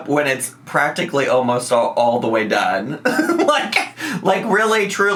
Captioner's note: laughs